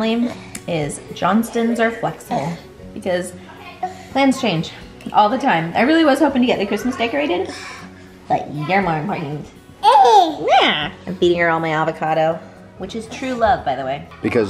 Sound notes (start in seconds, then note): 9.8 coos